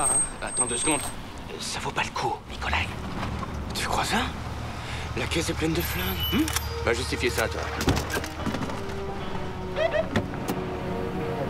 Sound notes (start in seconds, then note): 5.8 bell rings; 6.5 trumpet blows